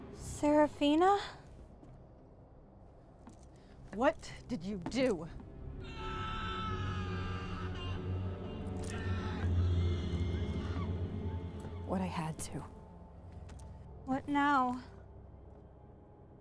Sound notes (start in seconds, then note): 5.8 screams off in the distant forest